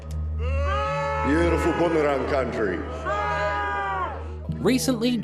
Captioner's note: booing coming from a small group in the crowd